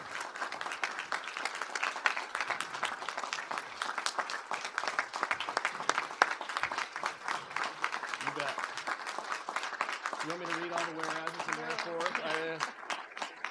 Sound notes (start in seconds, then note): 0.0 applause